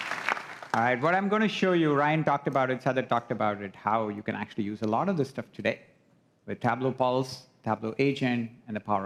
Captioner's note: applause